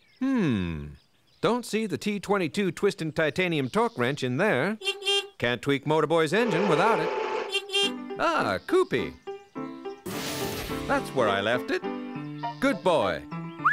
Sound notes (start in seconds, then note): 9.0 whistling